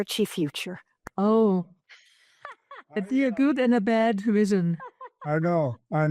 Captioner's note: rires